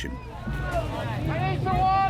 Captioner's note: people chattering